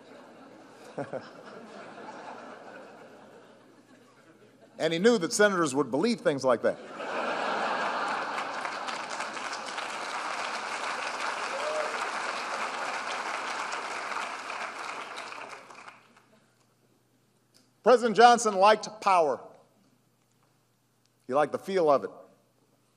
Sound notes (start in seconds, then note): 0.0 laughter; 9.5 laughter and applause